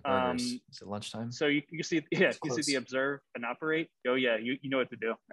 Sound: chuckles

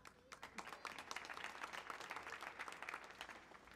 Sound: audience applauds

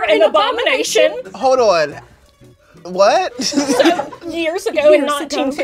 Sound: laughter

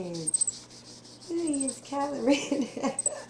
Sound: laughter

